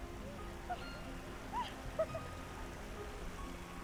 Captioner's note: laughing